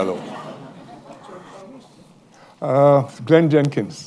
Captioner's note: laughter